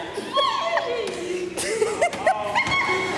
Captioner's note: squeals